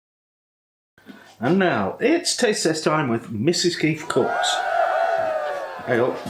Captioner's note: cheering